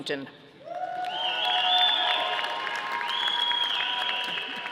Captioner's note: audience applauding